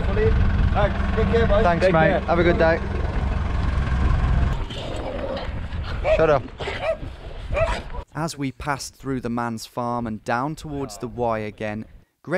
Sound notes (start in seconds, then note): 7.5 dog barking